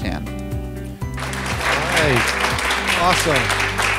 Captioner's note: applause